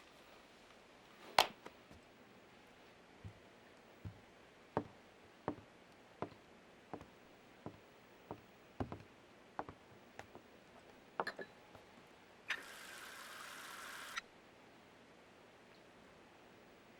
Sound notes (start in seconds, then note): 11.2 glass clinking; 14.0 water splashing